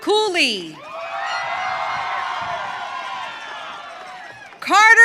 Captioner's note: audience cheering